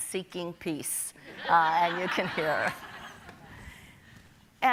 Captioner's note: audience laughing